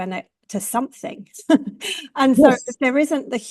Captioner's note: chuckles